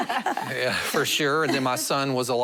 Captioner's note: laughter